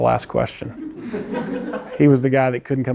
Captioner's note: laughter